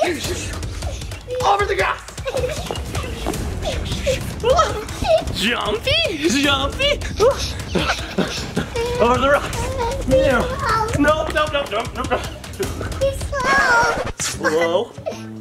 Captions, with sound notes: (giggling) - Over the grass. (swooshing) Jumpy, jumpy. Over the rocks. - Please slow. - No, no, no, no. - Please slow. - Slow.